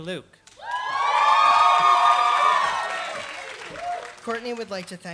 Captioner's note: applause